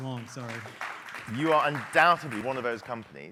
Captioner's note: applause